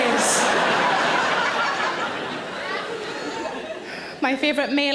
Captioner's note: audience laughs